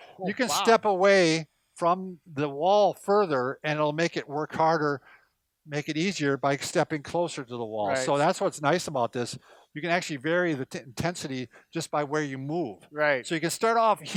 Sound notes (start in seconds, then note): none